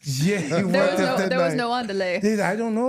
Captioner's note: speaks Spanish